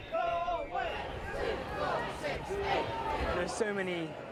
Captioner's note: general protest shouts